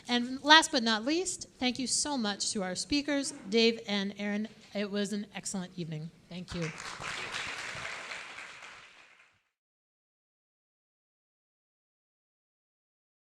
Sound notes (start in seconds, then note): 6.6 audience applauding